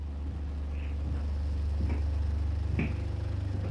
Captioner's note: footsteps approaching